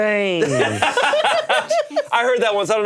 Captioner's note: both laughing